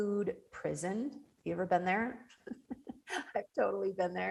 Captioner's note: laughs